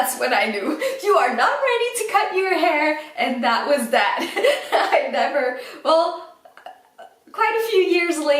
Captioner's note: laughs